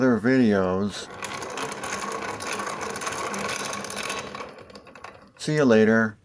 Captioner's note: grinder sound